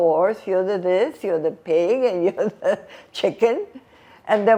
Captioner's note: laughing